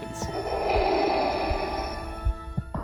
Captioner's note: Darth Vader breathing